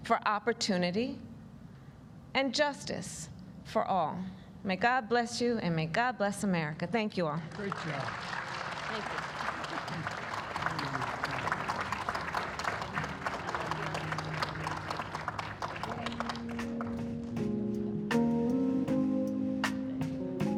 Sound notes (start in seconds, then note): 7.4 applause